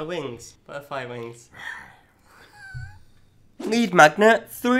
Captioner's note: laughs